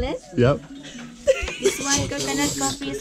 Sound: laughing

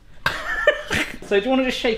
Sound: both laugh

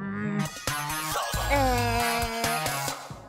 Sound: mockingly

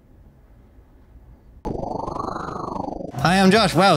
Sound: whirring

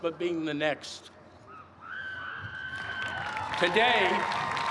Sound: cheers and applause

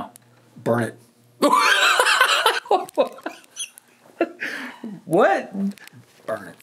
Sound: laughing

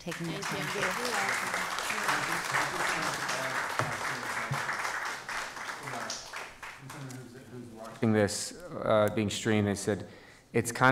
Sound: applause

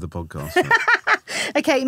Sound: laughing

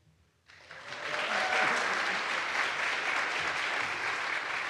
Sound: audience applauds

